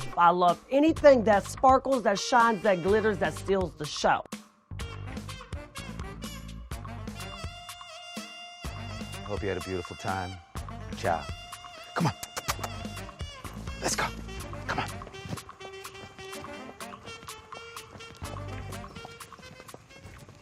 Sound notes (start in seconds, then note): 4.5 saucy music; 11.5 kisses; 15.7 saucy music